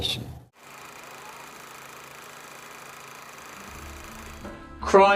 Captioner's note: old movie reel clicking